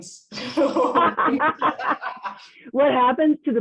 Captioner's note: both laughing